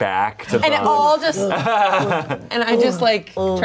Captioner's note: laughs